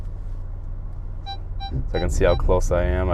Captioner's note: beeping